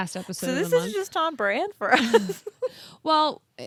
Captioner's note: laughs